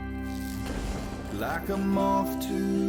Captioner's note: soft music; upbeat music; logo whooshing; soft music